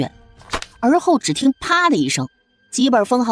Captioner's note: slap